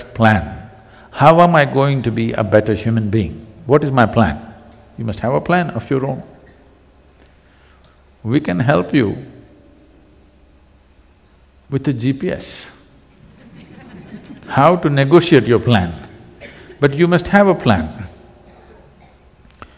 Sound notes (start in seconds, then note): 13.2 laughter